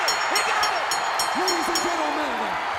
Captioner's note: bell ringing